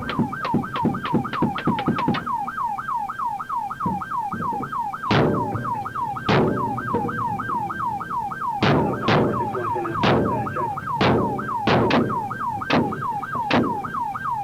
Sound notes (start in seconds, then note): 0.0 rapid gunfire; 5.0 louder gunshots